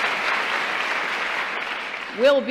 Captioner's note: applause